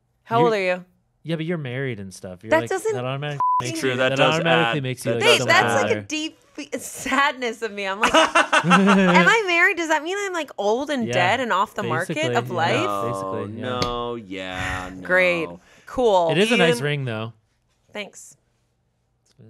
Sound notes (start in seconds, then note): 3.4 beep; 8.0 laughing